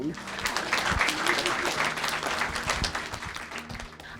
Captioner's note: applause